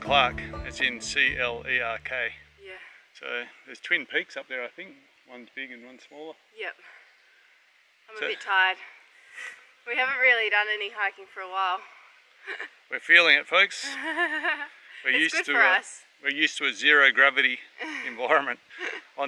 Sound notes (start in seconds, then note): 13.7 laughs